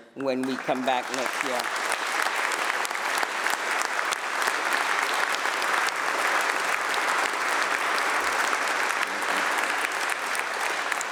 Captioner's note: applause